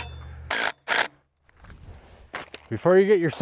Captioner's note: drill roaring